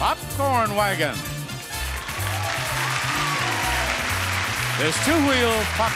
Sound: upbeat music; audience cheers and applauds

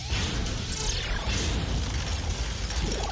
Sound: zip zoom!

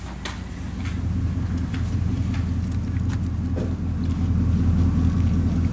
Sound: car engine rumbling

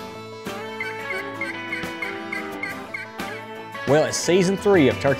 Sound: turkey calls

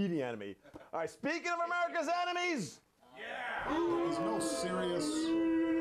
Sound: audience boos

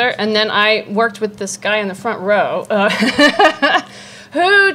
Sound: laughs

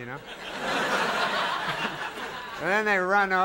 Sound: audience laughing

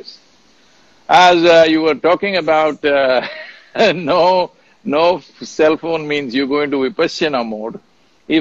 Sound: laughs

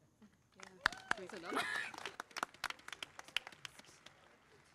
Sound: crowd clapping

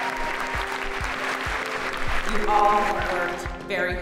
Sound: audience cheering; audience clapping

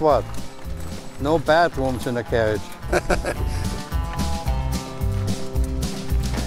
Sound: chuckles

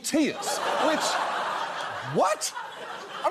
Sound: audience laughs

